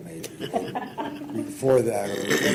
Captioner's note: laughs